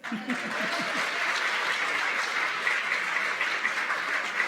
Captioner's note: applause